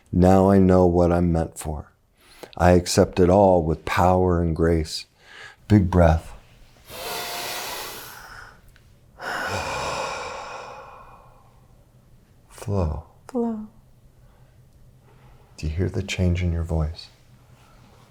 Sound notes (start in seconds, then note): 6.6 inhales; 9.2 exhales